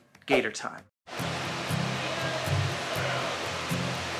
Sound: fans blowing

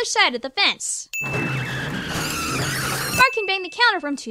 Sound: screeching

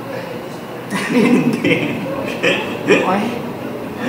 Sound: laughing

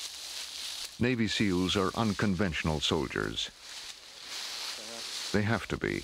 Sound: voiceover

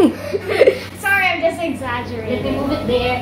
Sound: laughs

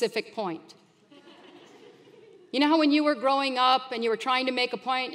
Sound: laugh

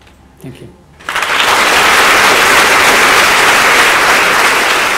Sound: applause

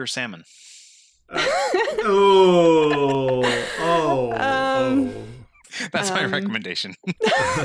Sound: laughing

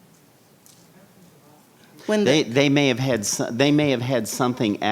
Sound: speaking faintly

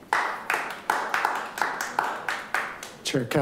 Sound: group clapping

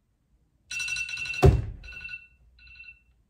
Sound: cell phone alarm sound

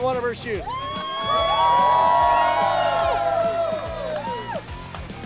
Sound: cheering

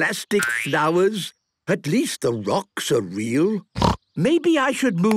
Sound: snorting

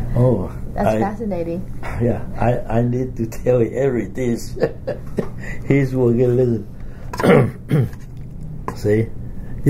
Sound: laughs; coughs

